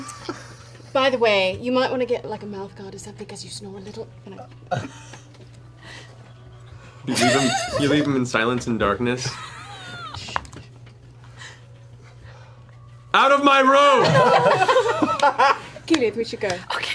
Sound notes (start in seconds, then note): 10.5 yelling